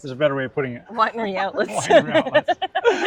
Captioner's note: ha haha